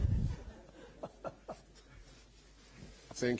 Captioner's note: laughter